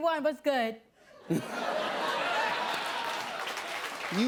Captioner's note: laughter